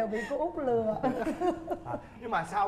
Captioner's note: laughing